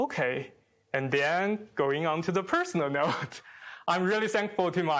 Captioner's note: chuckles